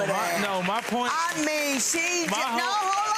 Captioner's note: audience laughing and clapping